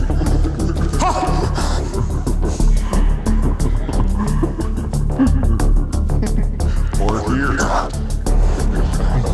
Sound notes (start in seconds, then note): 0.0 Detective gasping; 0.0 dramatic music intensifies